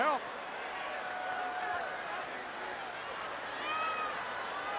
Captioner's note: crowd chattering